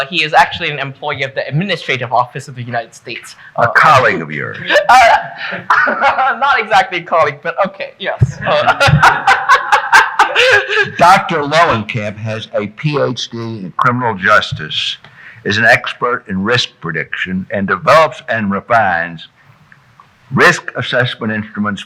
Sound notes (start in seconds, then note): 4.4 laughing; 8.4 laughs